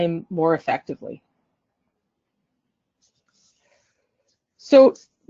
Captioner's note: silence